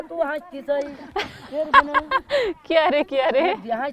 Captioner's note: laughs